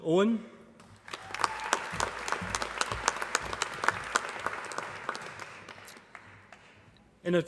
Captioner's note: applause